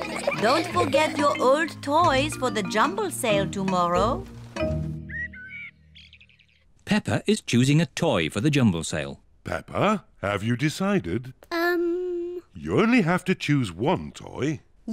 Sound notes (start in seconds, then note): 4.9 birds chirping